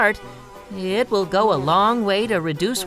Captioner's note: fly buzzing